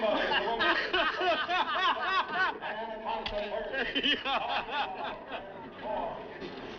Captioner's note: laughing